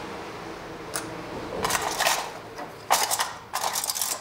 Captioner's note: metallic clatter